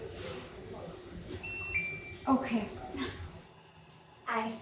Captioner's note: success beep